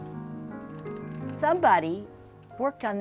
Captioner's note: clicking sound of nails being run along metal divets